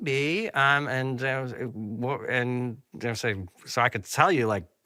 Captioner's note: stammering